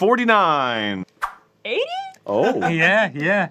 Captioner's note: high pitched and unsure